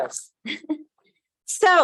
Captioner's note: laugh